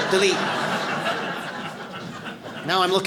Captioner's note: audience laughs